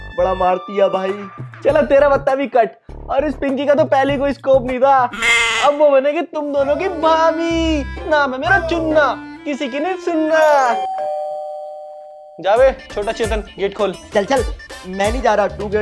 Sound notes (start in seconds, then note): 10.6 door bell ringing